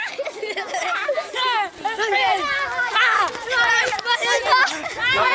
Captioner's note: kids laughing